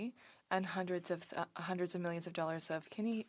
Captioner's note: speaking French